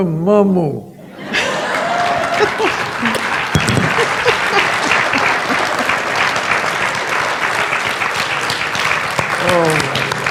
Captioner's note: laughter and applause